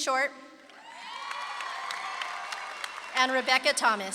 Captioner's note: audience claps and cheers